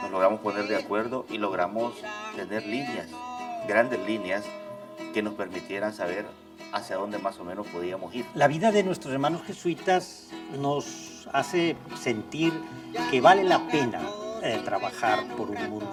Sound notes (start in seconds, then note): 0.5 speaks in foreign language; 8.8 participant speaks in foreign language